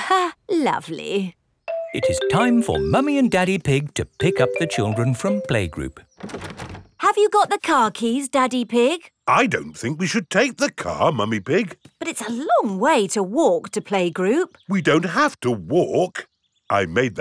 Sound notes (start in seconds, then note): 6.1 door rattles